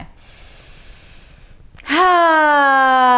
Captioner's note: inhales deeply